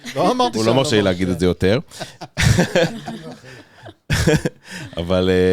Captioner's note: laugh